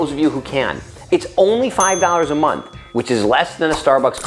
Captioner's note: bell rings